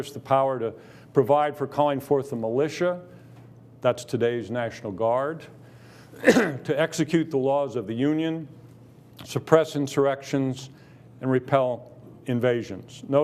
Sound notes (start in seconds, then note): 6.1 coughing